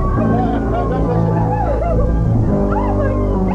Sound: cries

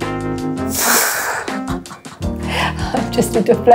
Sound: laughing

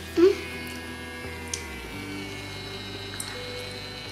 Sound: pen buzzes

